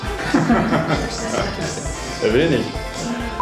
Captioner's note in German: Gelächter